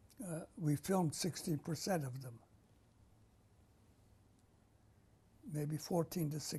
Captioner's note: pauses for 3 seconds